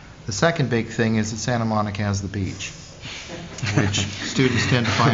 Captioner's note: laughter